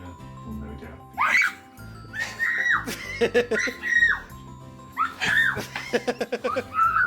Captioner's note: cheering; chuckling